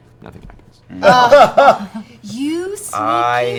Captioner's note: laughter